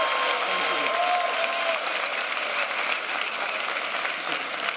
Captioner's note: applause and cheering